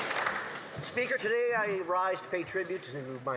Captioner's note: some Applause